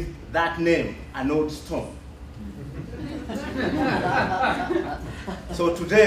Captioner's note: laughter